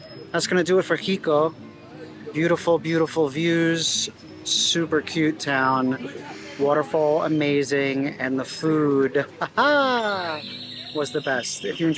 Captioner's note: laughs